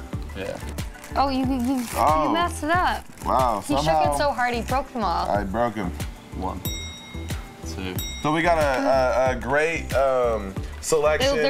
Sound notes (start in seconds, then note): 6.6 bell dings